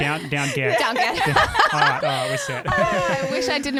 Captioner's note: laughing together